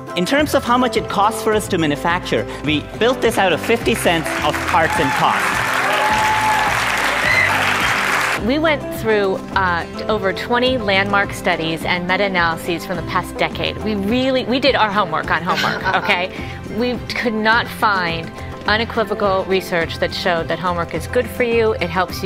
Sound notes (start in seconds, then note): 6.2 applause; 15.4 laughs